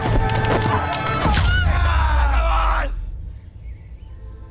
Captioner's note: all cheering; birds chirping